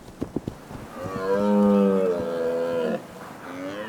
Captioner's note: stags bellow